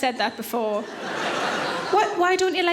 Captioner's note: audience laughing